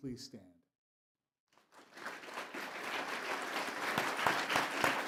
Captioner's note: applause